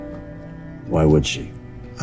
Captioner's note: voiceover